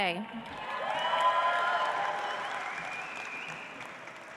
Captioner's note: audience applauds